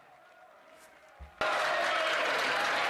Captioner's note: some Applause